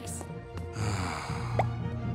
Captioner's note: sighing